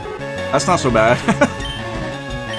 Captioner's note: laughs